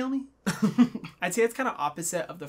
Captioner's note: laughs